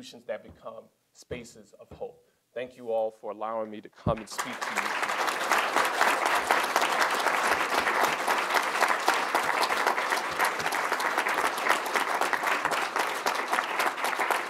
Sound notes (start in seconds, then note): 5.1 applause